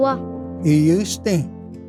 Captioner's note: repeats second word in Cherokee